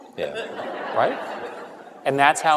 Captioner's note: laughter